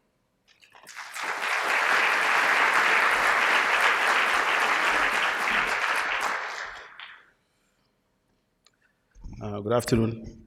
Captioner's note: applause